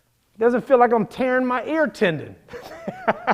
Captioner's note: laughs